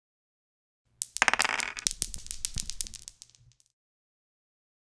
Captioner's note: dice rolling